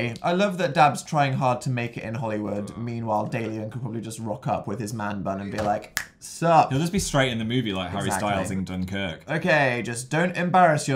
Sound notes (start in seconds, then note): 5.9 snips fingers